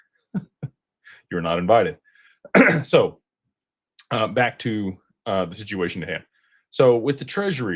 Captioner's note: clears throat